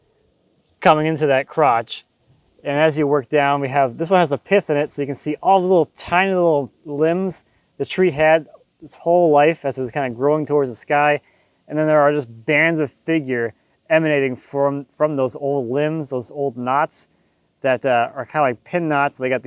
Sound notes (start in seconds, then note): none